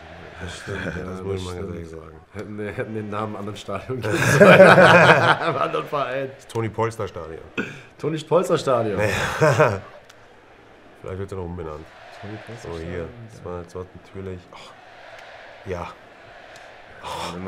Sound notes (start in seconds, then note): 4.0 lachen; 11.6 lachen